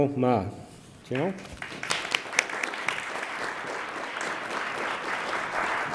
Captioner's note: attendees applaud